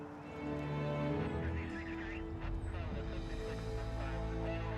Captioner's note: ambient police radio messages